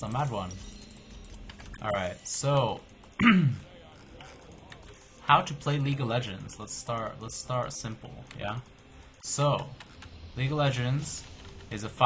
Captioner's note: clear throat